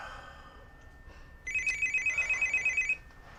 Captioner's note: ring ring ring